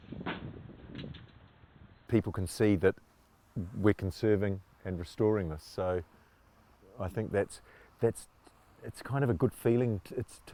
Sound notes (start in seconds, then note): none